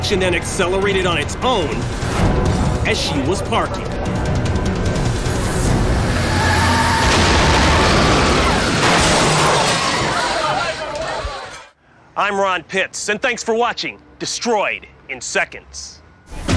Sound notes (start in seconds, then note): 5.9 tires screech; 6.3 woman screams